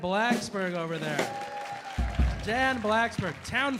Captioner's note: audience cheering